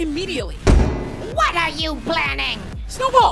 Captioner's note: door slams